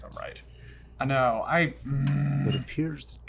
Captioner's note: grunting